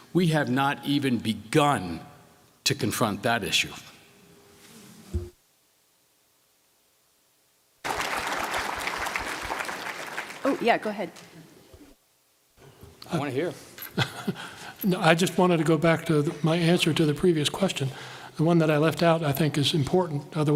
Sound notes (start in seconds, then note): 7.8 applause